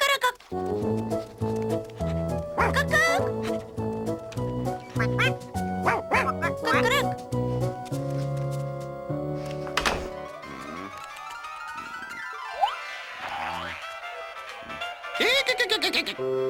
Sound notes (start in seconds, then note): 2.5 barks; 3.2 clucks; 4.9 quacks; 5.7 barks; 5.8 clucks